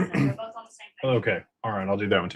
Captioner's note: clears throat